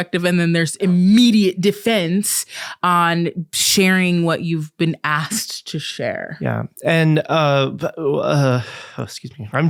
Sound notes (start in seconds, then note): 6.4 choking up sounds